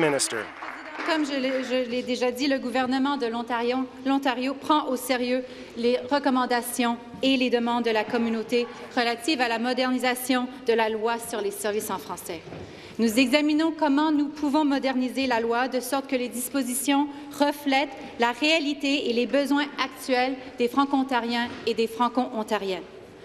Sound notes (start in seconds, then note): 1.8 applause; 4.2 speaking in French